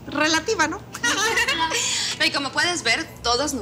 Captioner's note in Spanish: Risas